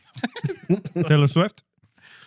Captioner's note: laughing